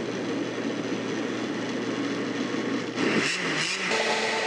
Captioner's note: loud grinding noise